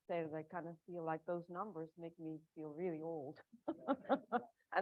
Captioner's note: laughing